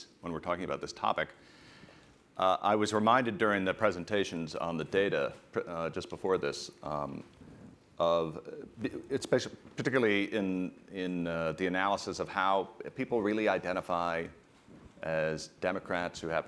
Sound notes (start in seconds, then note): none